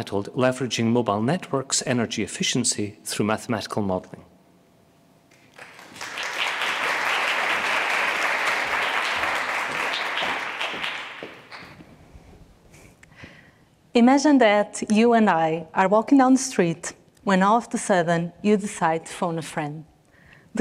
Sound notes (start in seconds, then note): 5.3 audience applauding; 10.3 footsteps echoing